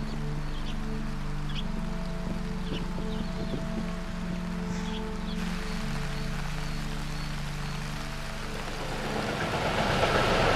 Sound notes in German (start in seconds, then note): 0.3 sphärische Musik; 6.5 Regen